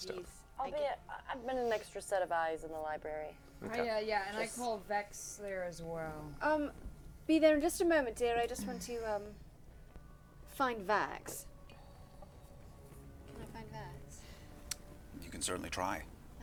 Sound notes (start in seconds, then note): none